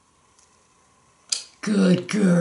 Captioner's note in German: smooch